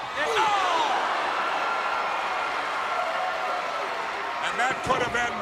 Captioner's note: crowd cheering